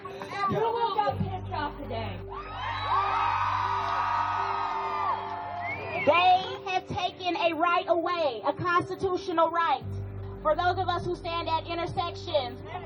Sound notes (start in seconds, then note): 0.0 crowd; 6.4 crowd cheering